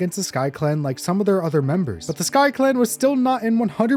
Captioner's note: none